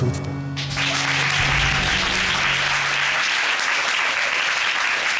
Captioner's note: applause